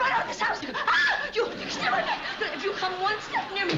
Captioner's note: screams